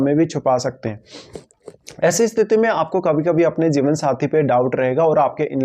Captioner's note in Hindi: नाक से की जाने वाली आवाज़